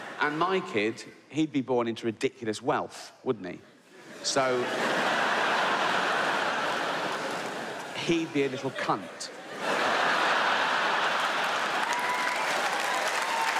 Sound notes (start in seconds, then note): 3.9 audience laughs; 9.7 audience laughs and claps